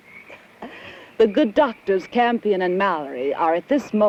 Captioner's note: chuckles